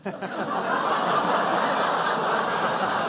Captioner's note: laughter